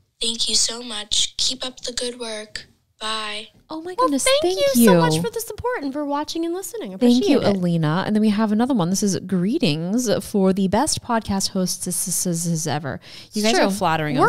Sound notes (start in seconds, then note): 11.5 hissing